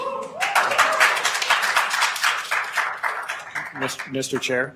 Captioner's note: attendees applauding